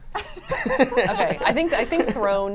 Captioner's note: laugh